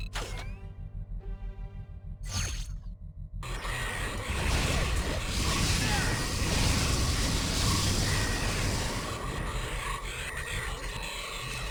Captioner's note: explosion